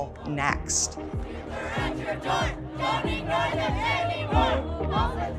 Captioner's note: crowds chanting